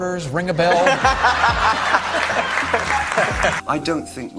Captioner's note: everyone laughs